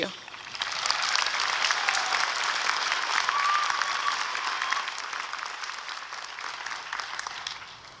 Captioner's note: applause and cheering